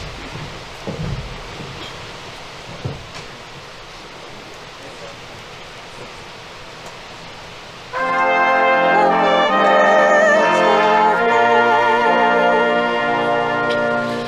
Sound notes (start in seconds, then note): 3.9 people chattering; 7.9 gentle music